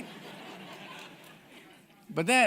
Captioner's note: audience laughing